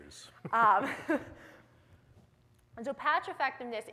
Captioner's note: chuckles